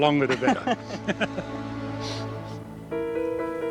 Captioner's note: chuckles